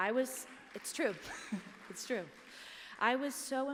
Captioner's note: applause